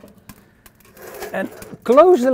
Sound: stove door clinks

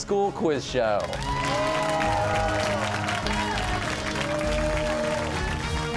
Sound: cheers and applause

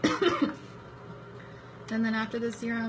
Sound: coughs; clears throat

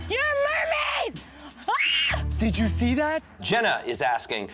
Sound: screams

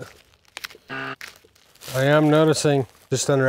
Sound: buzzer buzzes

